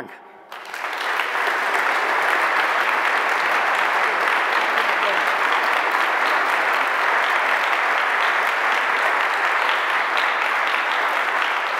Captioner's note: general applause